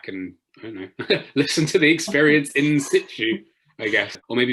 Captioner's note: laughs